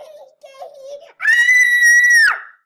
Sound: loud Scream

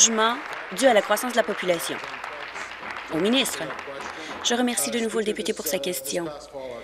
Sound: applause

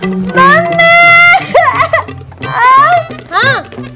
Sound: crying

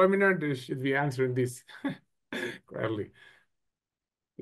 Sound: chuckles

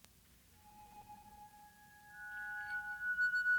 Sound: chiming

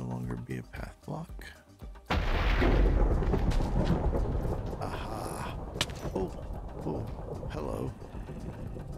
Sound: thunder

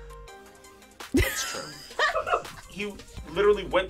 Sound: React laughs

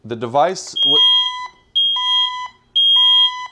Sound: alarm ringing

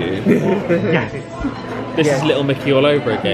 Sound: friends laugh

